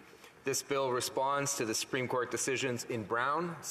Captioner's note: speaking French